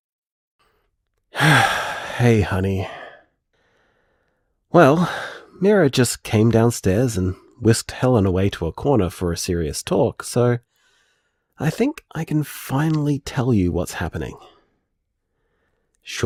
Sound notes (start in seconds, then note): 1.3 sigh